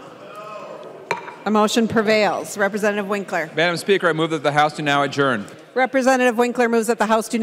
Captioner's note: chorus of ayes